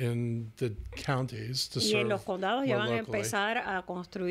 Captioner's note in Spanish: Hablando ingl\s